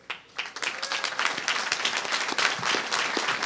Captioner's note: applause